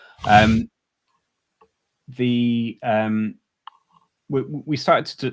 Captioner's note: chuckles